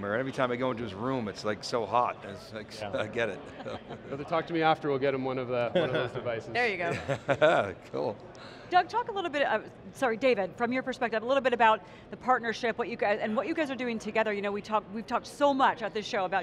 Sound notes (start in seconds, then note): 3.4 panelists laugh